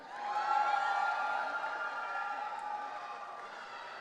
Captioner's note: audience cheering